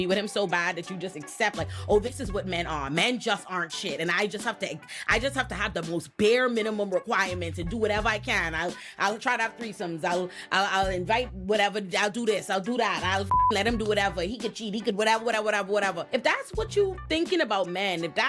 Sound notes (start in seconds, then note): 13.3 beep